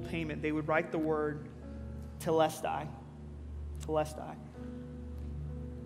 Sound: speaking in Greek

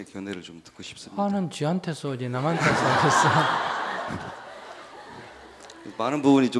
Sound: audience laughter

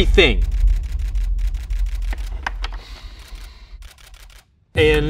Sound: camera shutter clicking

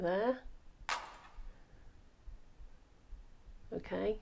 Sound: hands clap

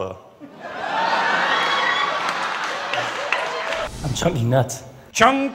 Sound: laughter

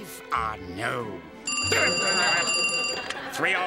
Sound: phone rings

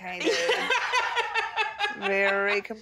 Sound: laughs loudly

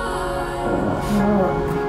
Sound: grumbling

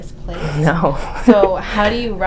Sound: laughs

